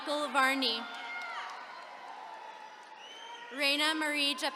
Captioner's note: attendees cheering